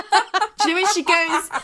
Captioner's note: laughing